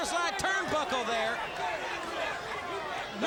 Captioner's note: crowd cheering